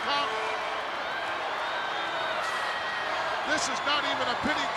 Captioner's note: crowd cheering